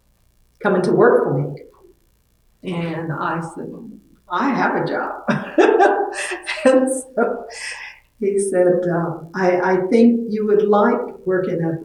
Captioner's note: laughs